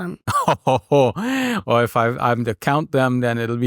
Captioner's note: laughing